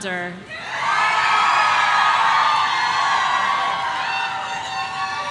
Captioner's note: audience cheering